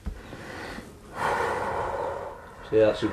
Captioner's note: sighs